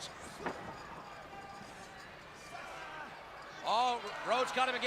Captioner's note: crowd chatter